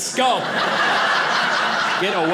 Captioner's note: audience laughing